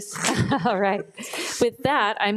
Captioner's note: chuckles